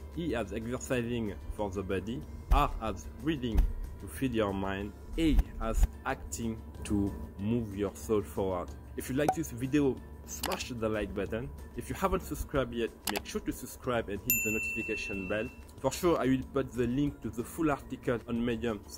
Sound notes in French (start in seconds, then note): 8.9 bruit de bouchon; 10.4 clics de souris; 13.0 clics de souris; 14.2 sonnerie